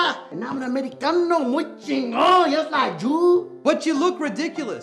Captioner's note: speaks in Spanish; speaks in Spanish